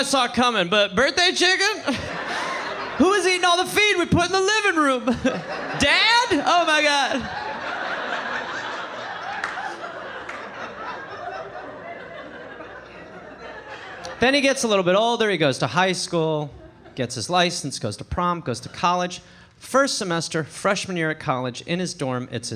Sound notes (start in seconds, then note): 5.4 audience laughing